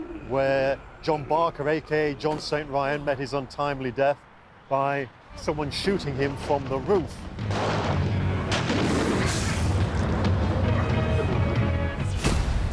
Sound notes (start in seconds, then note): 8.4 explosive boom; 8.4 loud explosion